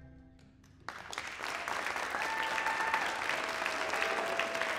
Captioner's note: applause, cheers